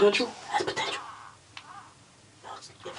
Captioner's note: whispering; whispering